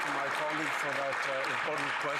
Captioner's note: some Applause